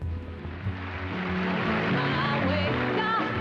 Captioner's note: audience applauding